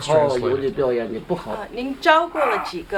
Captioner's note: non-english speech